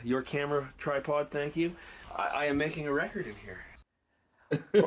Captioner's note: laughing